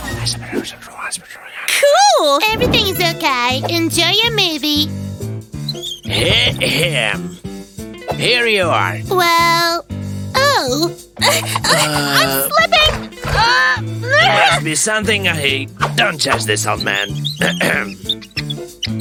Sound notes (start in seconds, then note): 14.0 loud grunting